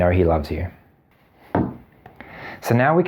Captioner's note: ball thumps